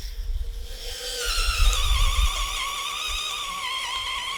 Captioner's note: drill spinning